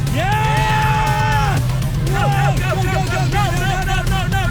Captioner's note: both screaming